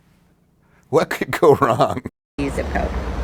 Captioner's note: laughs